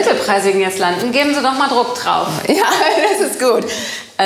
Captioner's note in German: Lachen